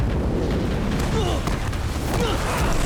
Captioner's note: grunting